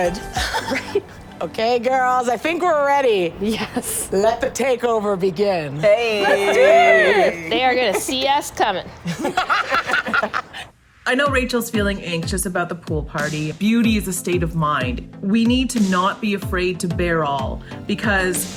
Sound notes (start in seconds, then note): 9.0 laughter